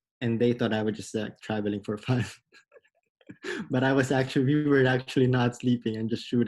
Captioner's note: laughs